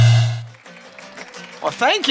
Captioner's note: applause